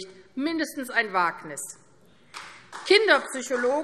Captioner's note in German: Vereinzelter Beifall AfD